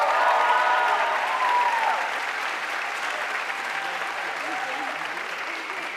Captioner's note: audience cheering and applauding